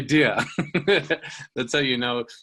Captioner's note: laughing